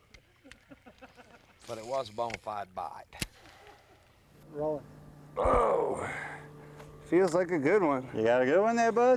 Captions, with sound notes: [laughter] Rolling! OOH! feels like a good one! You got a good one there Bub?